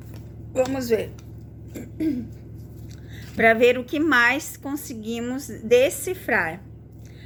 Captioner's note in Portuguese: limpando a garganta